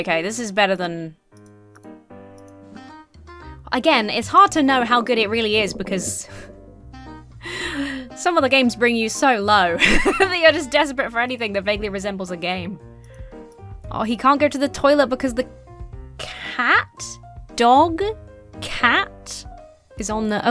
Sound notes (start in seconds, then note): 7.4 wheezes; 9.7 laughs